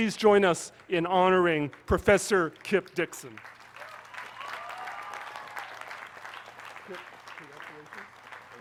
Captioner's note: applause